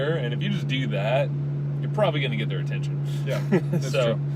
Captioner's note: laughs